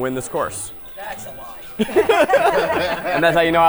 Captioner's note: group laughs